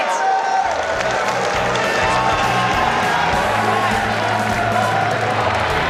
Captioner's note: audience cheers and applause; upbeat music